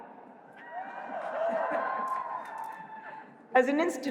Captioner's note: cheers